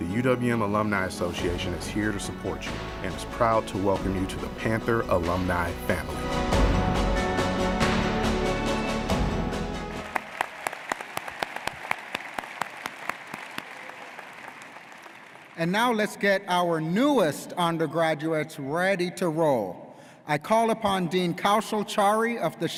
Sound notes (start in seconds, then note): 9.8 audience applauds